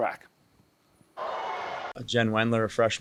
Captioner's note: crowd cheers